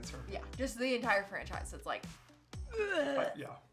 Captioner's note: gagging